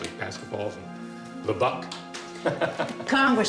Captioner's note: laughs